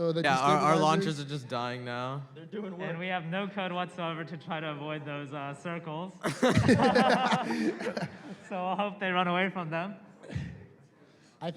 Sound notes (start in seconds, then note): 6.2 laughter